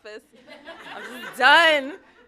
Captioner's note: laughter